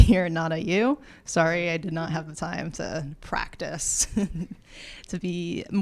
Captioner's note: laughs